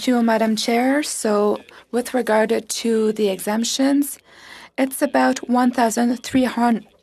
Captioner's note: speaking French